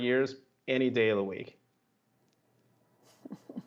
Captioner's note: laughter